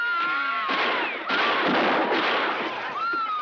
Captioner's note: screaming; gunshots; screaming